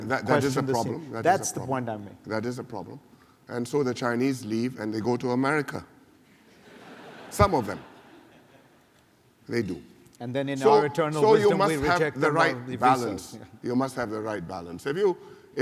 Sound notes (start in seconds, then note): 6.4 laughter